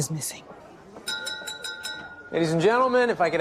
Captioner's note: glass clinking